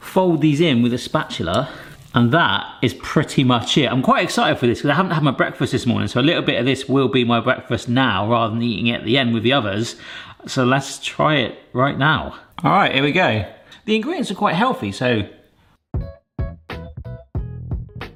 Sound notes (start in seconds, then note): none